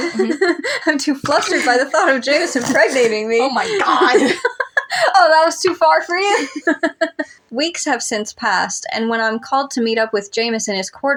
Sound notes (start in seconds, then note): 0.0 laugh; 3.1 chuckle; 4.6 laugh; 6.2 both Laugh